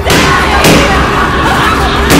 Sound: popping; laughing

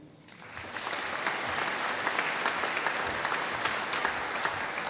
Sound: audience applauding

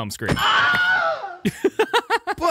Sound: screaming

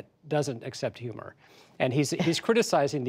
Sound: laughter

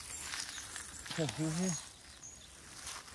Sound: Arabic

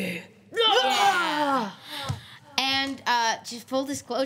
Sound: group yelling

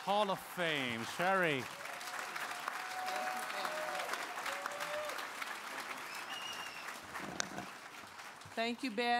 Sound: applause

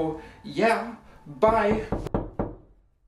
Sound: knocking

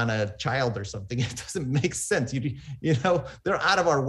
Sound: laughs

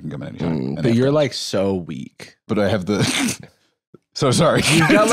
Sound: laughs

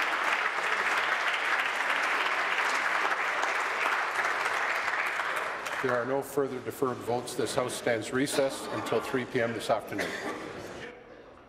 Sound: applause

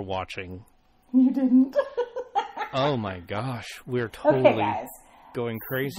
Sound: laughs

